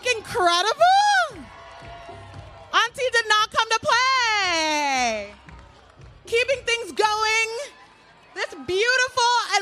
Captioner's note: applause